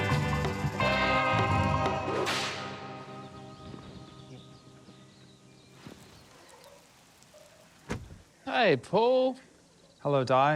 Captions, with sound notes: (WHOOSH!) - Hey, Paul. - Hello, Dai.